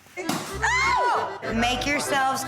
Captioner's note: pop!